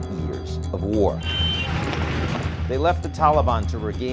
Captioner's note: plane engine roars